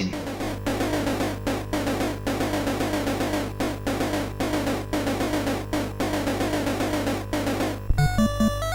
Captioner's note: in game sounds